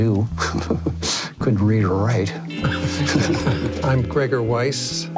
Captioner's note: laughs; laughter